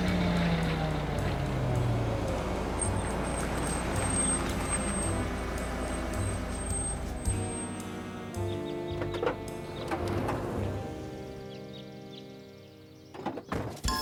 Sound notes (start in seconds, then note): 0.5 quiet upbeat music; 6.1 quiet upbeat music; 9.1 birds chirping